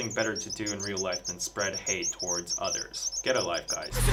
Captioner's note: bird tweeting noises